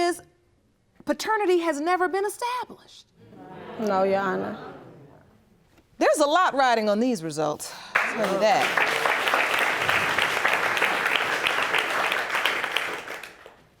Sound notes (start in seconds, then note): 3.7 audience groaning; 10.0 audience applauding